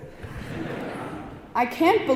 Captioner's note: audience laughing